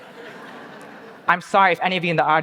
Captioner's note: audience laughing